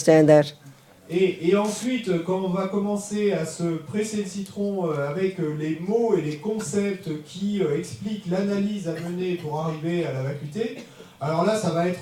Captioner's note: French